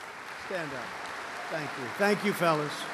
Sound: applause

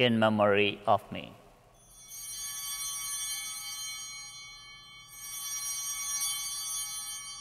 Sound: chimes ringing

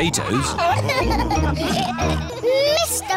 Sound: laughter

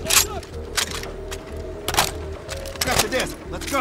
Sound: gun cocks

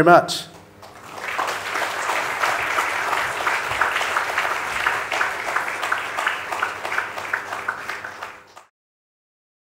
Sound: applause

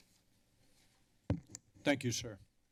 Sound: mic taps

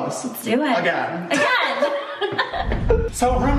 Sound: laughing

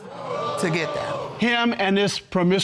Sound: audience exclaiming

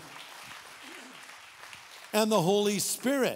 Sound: audience clapping

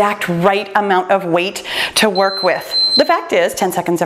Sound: timer beeps

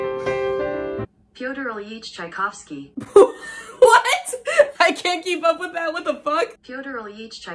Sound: sad piano music; computer voice; laughing

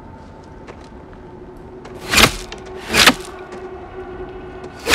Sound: arrows hitting ground

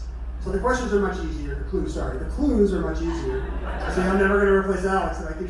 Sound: crowd laughter

